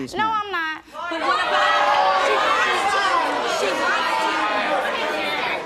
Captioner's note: audience jeering